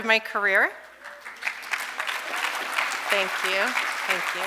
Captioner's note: audience applauding